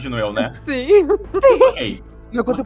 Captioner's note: laughter